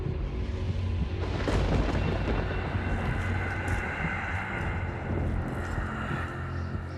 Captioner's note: thunder